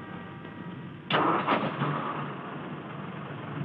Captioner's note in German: motor startet